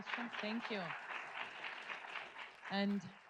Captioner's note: audience applauds